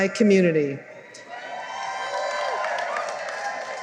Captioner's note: cheering